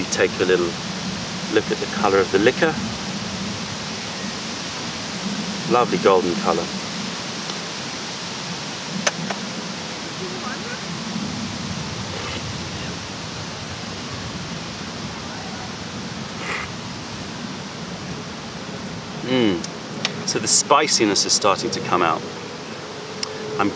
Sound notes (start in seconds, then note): 9.9 sips tea